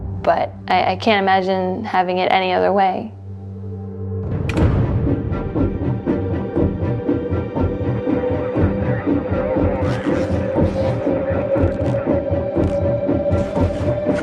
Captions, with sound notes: but I can't imagine having it any other way. (tense music) (people chattering on radio)